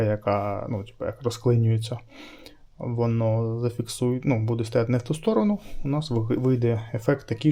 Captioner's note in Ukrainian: сопіння